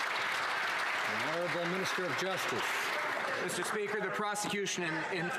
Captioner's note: some Applause